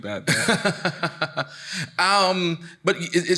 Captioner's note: laughing